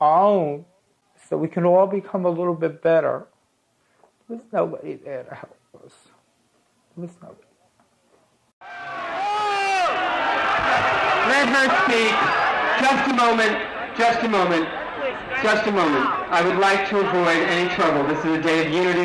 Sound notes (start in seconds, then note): 9.8 crowd yelling and booing